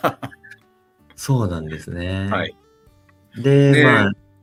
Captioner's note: laughs